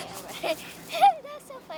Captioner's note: laughing